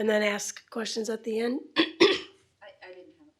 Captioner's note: clearing throat